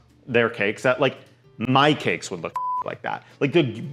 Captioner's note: beep